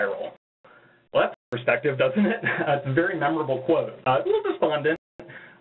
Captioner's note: laughter